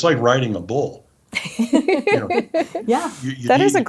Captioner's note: laughs